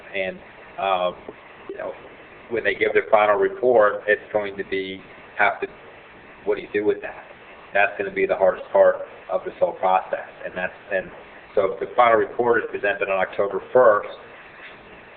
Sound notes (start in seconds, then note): none